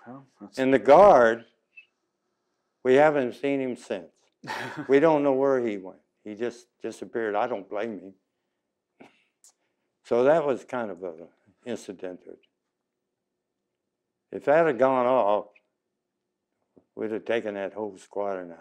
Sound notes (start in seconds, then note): 4.4 laughs